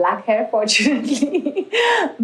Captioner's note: laughs